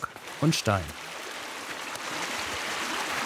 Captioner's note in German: Wasserplätschern